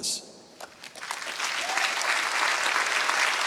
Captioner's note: applause